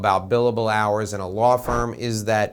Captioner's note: air whooshing